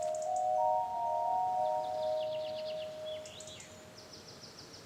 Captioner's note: birds twittering